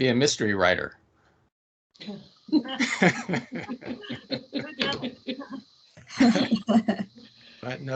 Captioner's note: laughing